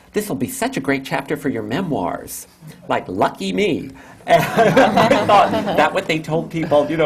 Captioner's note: laughter